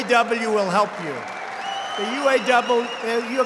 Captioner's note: applause